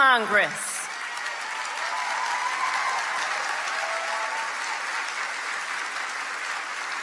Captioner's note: crowd clapping; crowd cheering